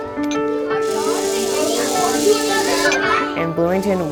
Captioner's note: bright gentle music; robot whirring